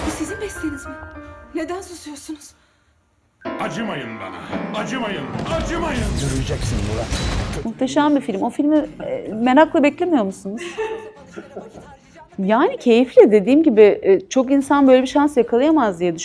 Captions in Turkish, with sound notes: Bu sizin besleğeniz mi? Neden susuyorsunuz? Acımayın bana. Acımayın. Acımayın. Yürüyeceksin Murat. Muhteşem bir film. O filmi merakla beklemiyor musunuz? [kahkaha] Yani keyifli dediğim gibi çok insan böyle bir şans yakalayamaz diye